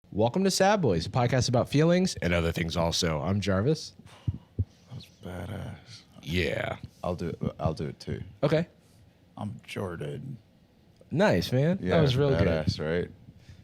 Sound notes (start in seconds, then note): 6.1 deep voice; 9.6 strangled